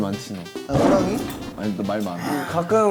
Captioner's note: rawr